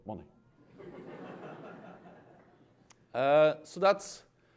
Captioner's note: laughter